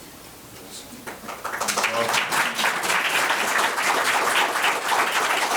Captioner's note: board members clapping